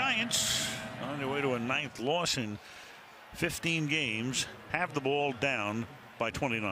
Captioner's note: pa announcement